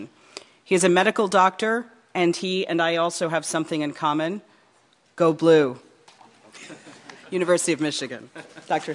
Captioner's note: laughter